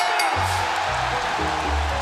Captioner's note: bell ringing